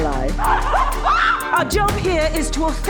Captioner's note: screaming